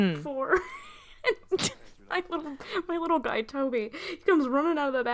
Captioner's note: laughing